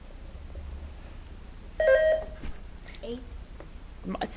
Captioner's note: buzzer beeps